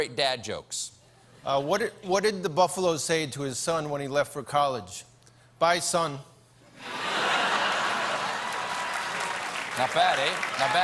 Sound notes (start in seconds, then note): 6.8 laughter; 7.2 applause